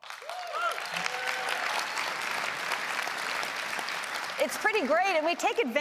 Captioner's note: applause